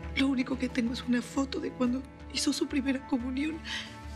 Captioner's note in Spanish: sollozo